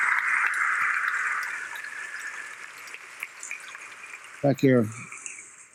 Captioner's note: applause